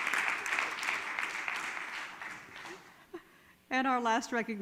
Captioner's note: all clap